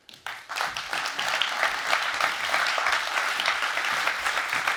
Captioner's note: audience applauds